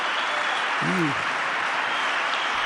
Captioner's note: cheering